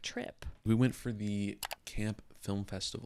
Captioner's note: computer mouse clicks